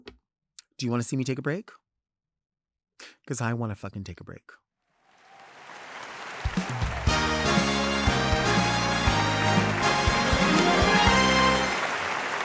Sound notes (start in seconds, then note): 5.2 audience cheering and applauding; 7.0 lively music; 12.2 audience continues cheering and applauding